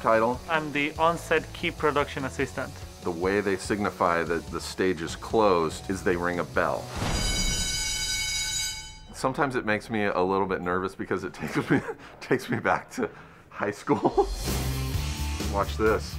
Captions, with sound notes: I'm the on-set key production assistant. The way they signify that the stage is closed is they ring a bell. (BELL RINGS) Sometimes, it makes me a little bit nervous because it takes me back to high school. Watch this.